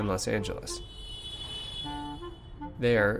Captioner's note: car horn honking